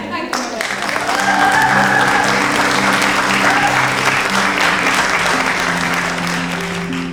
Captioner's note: audience cheering; gentle music